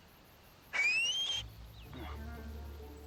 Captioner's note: whistles